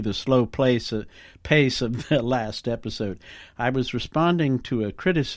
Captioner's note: chukle